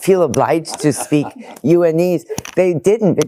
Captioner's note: laughing